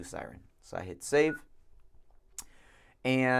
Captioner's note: beeps